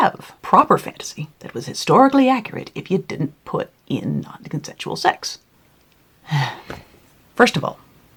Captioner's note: sigh